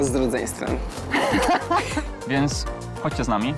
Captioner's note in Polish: śmiech